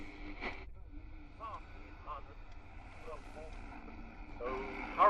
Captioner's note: radio fades, static